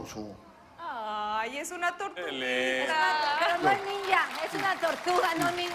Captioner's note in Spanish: aplausos